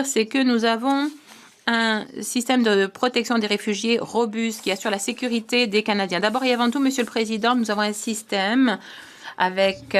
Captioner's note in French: voix de l'interprète